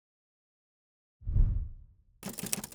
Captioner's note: whooshing; typing